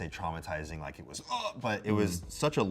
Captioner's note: groans